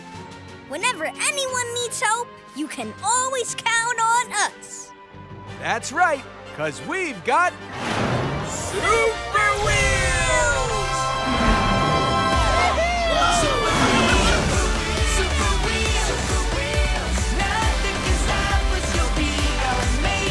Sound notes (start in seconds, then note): 11.3 cheering